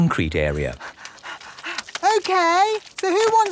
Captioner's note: panting